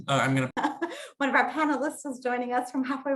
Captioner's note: laughs